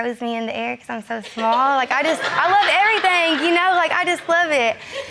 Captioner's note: audience laughing